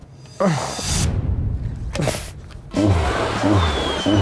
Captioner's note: laughing